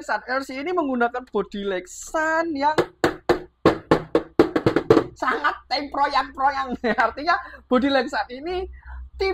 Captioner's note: tuk..tuk..tuk